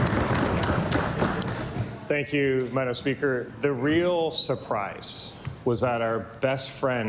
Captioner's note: applause